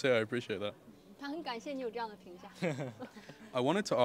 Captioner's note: laughs